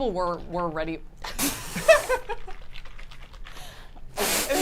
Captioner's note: swishing